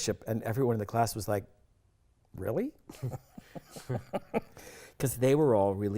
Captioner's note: chuckling